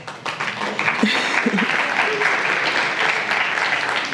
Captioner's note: applause